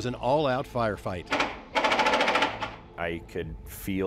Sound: rapid gunshots

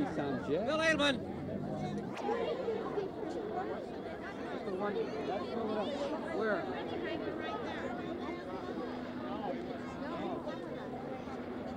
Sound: ambient noise and chatter

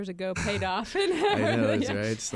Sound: laughing

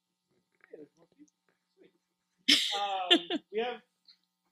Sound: laughs

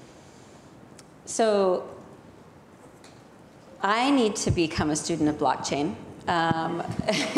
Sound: laughs

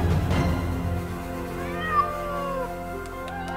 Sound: meowing

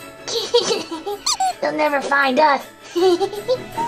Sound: suspenseful music; giggles; comical duck squeak; giggles

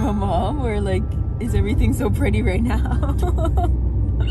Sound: laughing

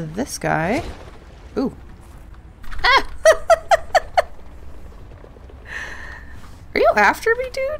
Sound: laughs

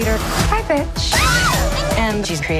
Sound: screams

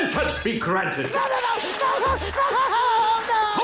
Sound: crying

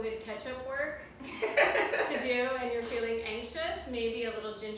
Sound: laugh

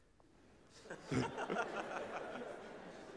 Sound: laughter

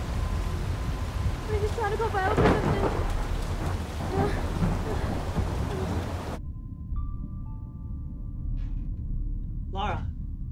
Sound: thunder cracking

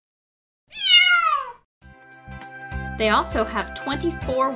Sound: cat meows

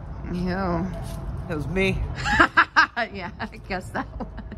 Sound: laughter

